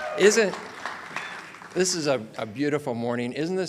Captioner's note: audience cheers and applauds